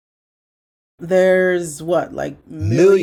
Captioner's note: voice echoes